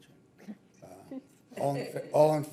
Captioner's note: people chuckle